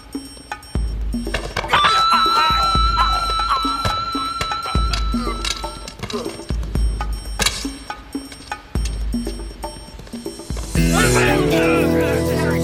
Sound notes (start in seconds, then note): 1.7 men groaning; 11.1 grunting